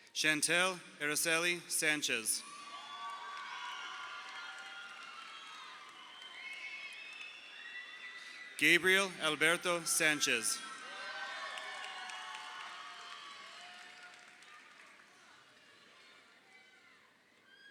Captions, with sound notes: Chantelle Araceli Sanchez. (crowd cheering) Gabriel Alberto Sanchez. (crowd cheering)